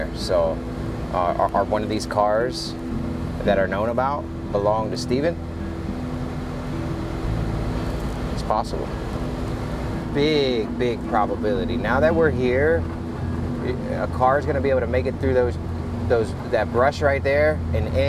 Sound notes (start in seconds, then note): 5.8 gentle music continues; 5.8 vehicle droning